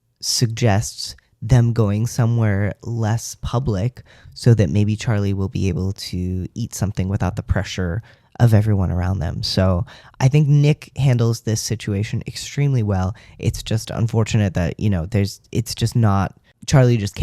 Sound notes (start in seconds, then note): none